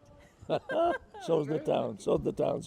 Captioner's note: laughs